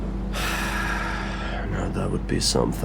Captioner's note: sighs heavily